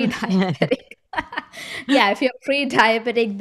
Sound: laughs

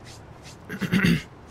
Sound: clearing throat

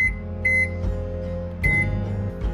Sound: microwave beeping

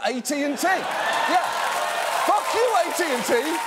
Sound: audience laughing; audience laughing

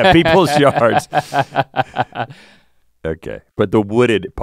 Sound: Link laughing; chuckles

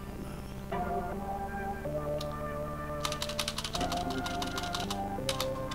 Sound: Delete key being pressed repeatedly

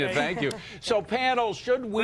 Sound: laughter

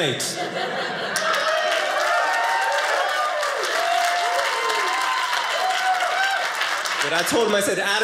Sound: audience cheering

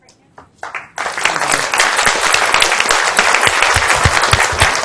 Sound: applause

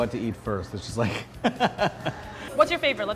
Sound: laughs

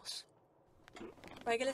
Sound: bed creaking

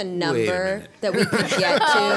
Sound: laughter

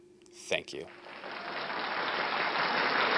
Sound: applause

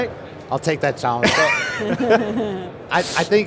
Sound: laughs

